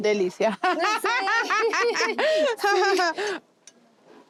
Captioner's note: laughter